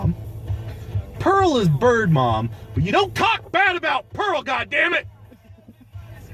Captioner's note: suddenly yelling